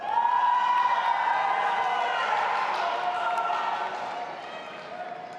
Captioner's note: audience applauding and cheering